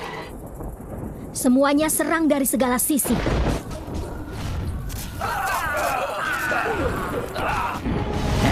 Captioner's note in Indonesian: berteriak